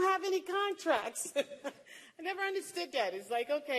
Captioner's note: laughter